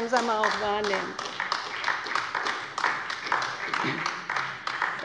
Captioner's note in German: Beifall bei Abgeordneten der LINKEN und der SPD